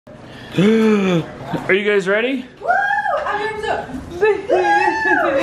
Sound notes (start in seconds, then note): 0.3 gasping; 2.8 cheering